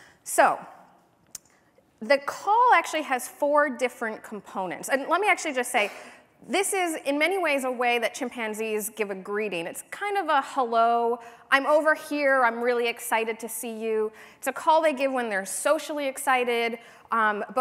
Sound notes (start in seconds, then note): none